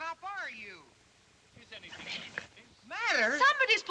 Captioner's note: whispers